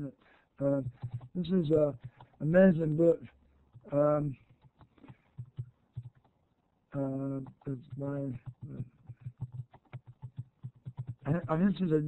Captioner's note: typing